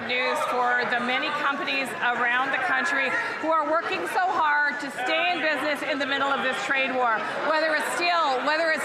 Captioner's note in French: voix de l'interprète